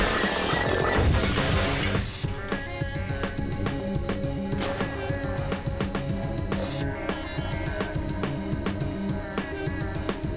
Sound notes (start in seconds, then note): 0.3 Manhack alarm blaring; 4.6 water splashing